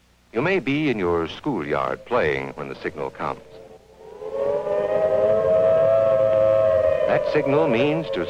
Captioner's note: sirens